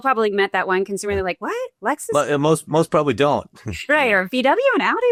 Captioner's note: laughs